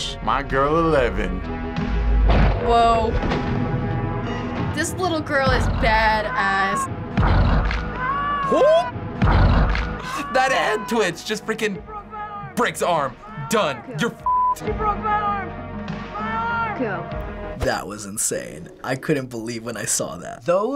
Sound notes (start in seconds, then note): 6.9 growl, bone cracks; 8.0 boy screams; 9.3 growl, bone cracks